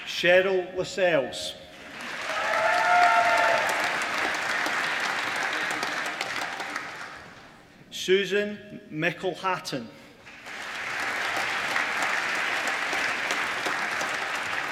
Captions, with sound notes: Cheryl Lessels (APPLAUSE) Susan McElhatton (APPLAUSE)